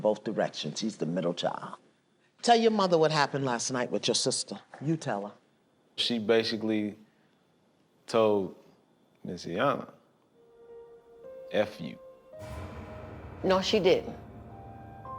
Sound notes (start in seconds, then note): none